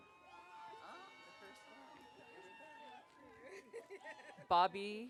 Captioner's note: audience cheering